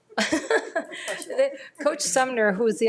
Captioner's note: laughing